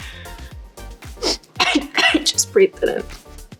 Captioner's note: Madeline coughs